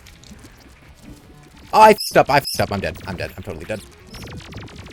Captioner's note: squeak